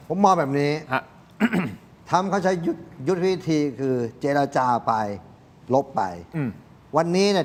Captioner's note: clears throat